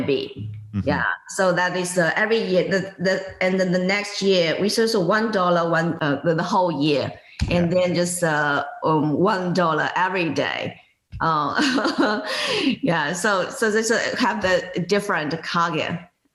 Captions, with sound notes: Yeah, so that is every year. And then the next year, which is a $1 the whole year and then just a $1 every day. (laughs) Yeah, so they have the different Coggin,